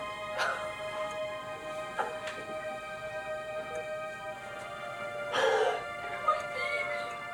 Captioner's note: emotional music; crying